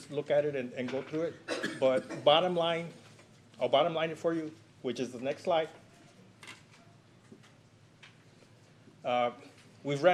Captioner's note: clears throat